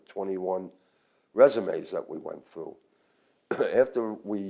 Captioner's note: coughs